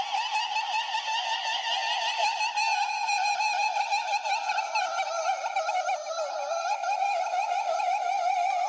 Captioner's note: screams